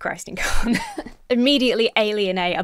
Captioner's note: laughs